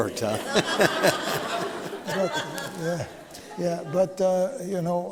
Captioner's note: laughter